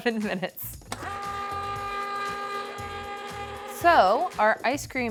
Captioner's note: ice cream maker whirring